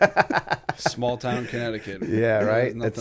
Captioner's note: laughter